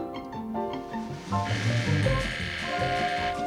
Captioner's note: doorbell ringing